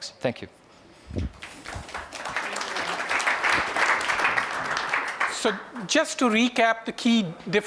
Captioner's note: applause